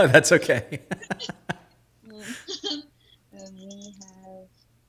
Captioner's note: both laughing